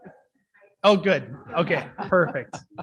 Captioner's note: speaking faintly off mic